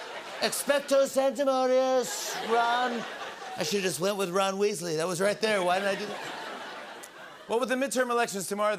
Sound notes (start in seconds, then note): 5.5 laughter